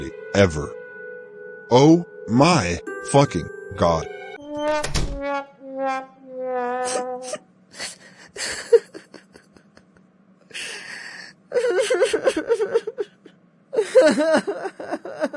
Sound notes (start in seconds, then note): 4.5 Tyler’s door gets slammed shut, sad slidehorn plays; 6.4 weeps hard